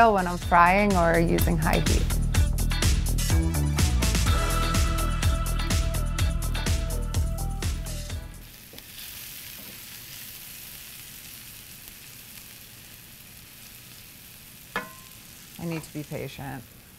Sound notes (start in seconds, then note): 2.6 gentle upbeat music; 8.3 shallots sizzling